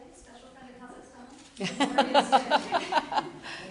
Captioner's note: laughter